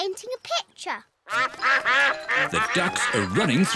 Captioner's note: quacking